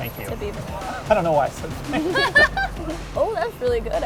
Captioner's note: laughing